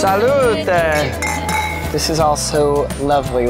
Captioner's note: glasses clinking